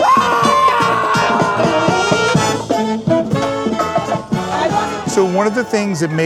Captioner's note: band member screams